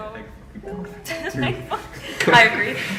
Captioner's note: laughs